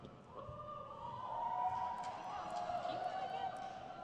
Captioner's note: audience cheers